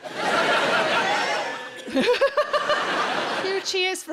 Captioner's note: audience cheering